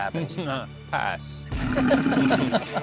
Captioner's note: scoffs